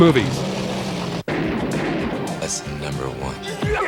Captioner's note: gunshots